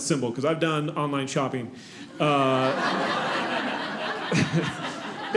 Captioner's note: audience laughing